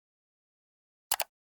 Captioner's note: clicking sound